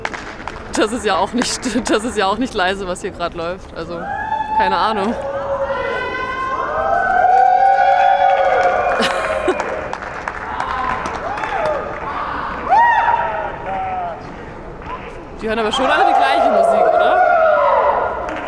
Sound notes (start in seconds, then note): 7.4 cheers